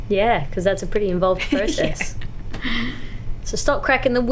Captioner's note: laughs